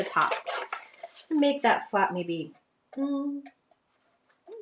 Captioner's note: hums